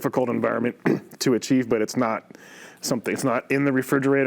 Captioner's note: coughs